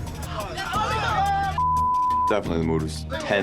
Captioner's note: loud chatter